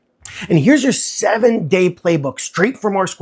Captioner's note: voice-over